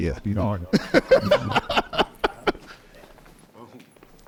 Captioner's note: people laughing